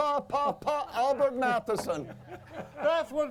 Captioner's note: laughing